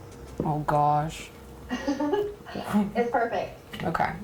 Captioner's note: laughs